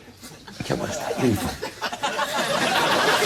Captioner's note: audience chuckling; audience laughs